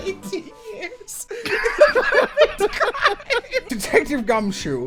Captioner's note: laughter